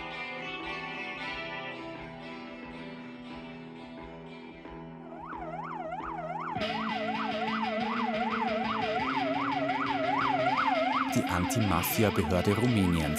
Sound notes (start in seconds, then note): 4.5 siren wailing; 5.8 discordant music playing